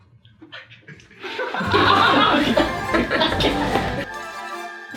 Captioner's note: laughter